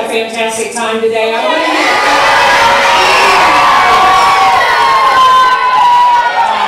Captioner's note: audience cheering